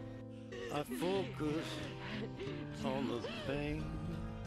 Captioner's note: crying